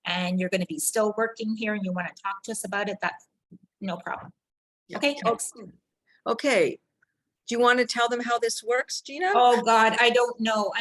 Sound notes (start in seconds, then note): none